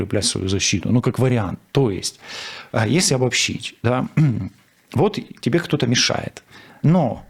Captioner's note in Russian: откашливается